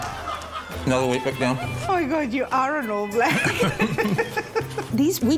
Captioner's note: both laugh